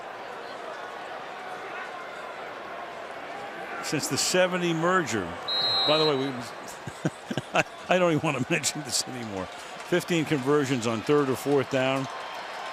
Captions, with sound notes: Since the '70 merger. By the way, [laughs] I don't even want to mention this anymore. 15 conversions on third or fourth down.